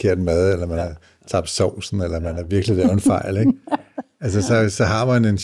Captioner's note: chuckles